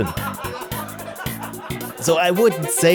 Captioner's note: laughter